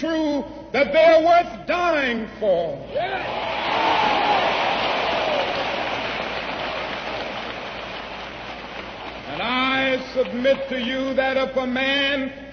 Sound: applause

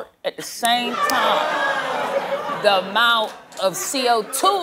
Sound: scattered groans, laughter

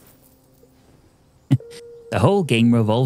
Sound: chuckles

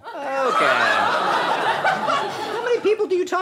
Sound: audience laughter

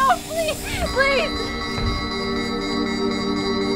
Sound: alarm

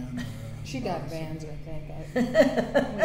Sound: laughter

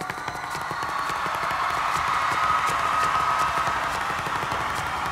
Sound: audience cheers and applauds

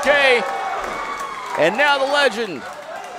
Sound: crowd cheering

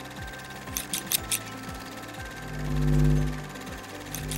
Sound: camera clattering; scissors clicking

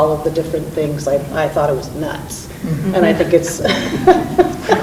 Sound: laughs

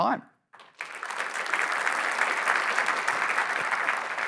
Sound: applause

